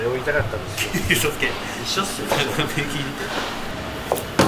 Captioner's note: laugh